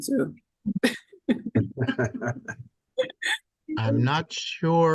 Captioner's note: laughing